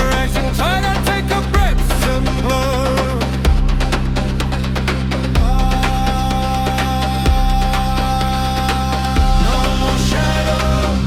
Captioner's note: ahhh, aah-aah